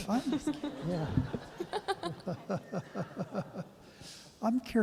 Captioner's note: laughter